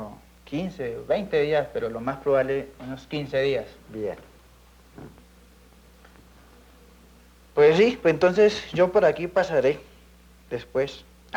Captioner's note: men conversing in Colombian Spanish